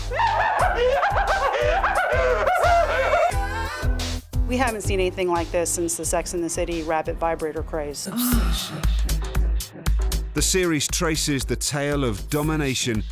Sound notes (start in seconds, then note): 0.0 laughing hysterically; 8.0 woman moans